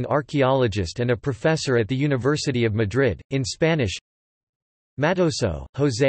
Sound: in Spanish

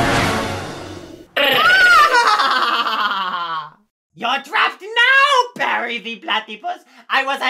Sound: laughs

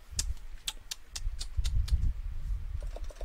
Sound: tongue clicking

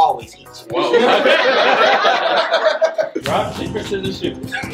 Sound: family laughing

